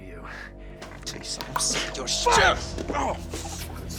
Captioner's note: grunting